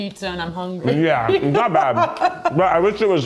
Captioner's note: chuckles